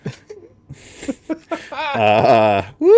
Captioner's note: laughing